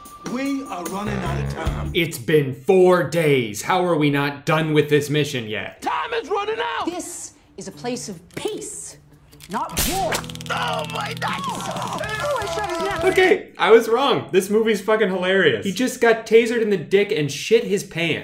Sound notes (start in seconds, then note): 10.6 in pain